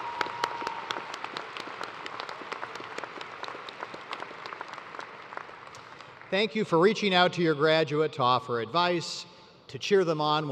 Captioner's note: cheers and applause